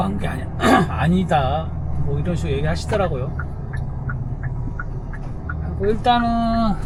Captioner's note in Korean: 목을 가다듬음